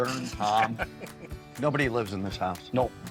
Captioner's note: laughing